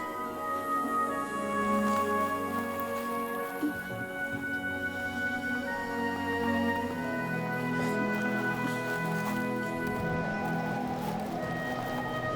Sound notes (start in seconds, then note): 9.5 wind whistling